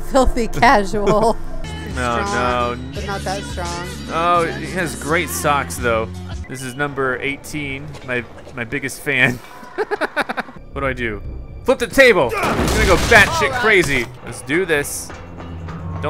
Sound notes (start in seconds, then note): 0.4 voiceover; 9.2 laughs